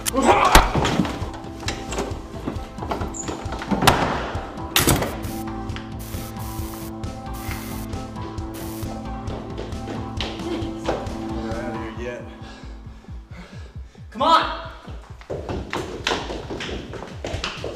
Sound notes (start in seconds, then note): 0.2 man groaning; 4.8 lock clicks; 5.9 electricity sizzling